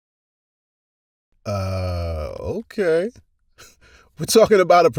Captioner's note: chuckles